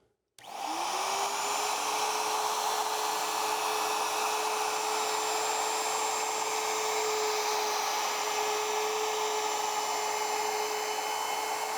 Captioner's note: sawing